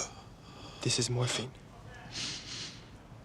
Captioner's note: gasps